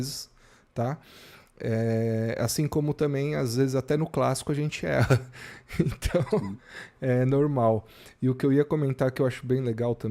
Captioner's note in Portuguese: risadas